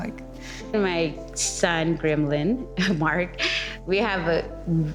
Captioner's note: chuckling